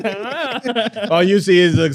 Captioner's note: laughing